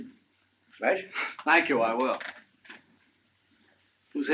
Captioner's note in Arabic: يضحك